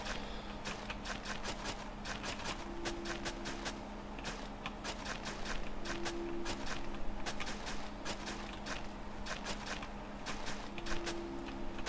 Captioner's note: typing